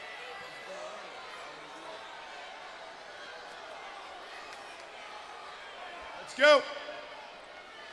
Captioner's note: crowd chatter